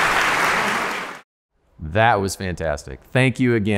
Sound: applause

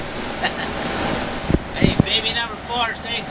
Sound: laughs

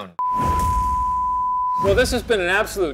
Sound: test pattern tone beeping

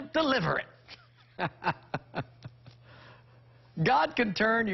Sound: laughs

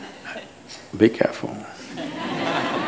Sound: laughter

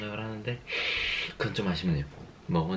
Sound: sniff

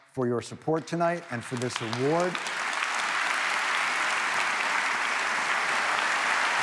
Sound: audience applauding

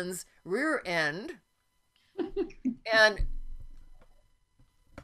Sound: softly laughing

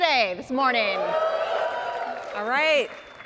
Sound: audience cheers

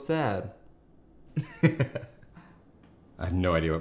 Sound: laughs

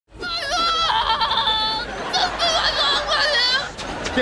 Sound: screaming

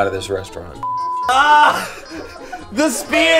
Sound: laughs

